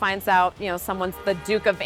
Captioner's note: horn honking